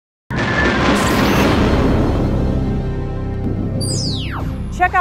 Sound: sound Effects

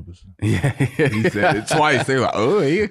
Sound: laughs

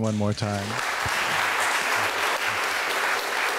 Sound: clapping

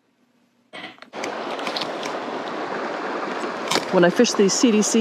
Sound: water rushing

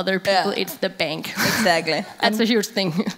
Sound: laughing

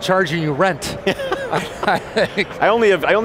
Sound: laughs

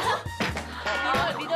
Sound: laughing out loud

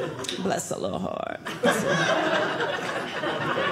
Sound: audience laughing

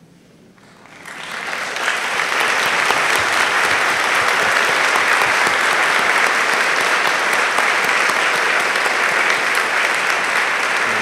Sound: applause

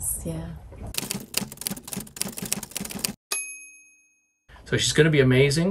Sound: typewriter keys clacking

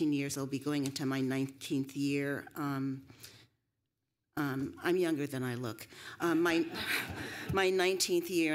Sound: laughter

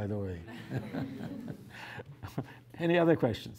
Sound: laughter

